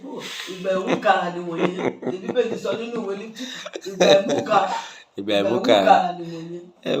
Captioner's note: laughing